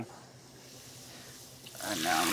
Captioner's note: sizzling